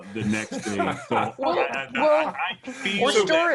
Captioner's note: laughs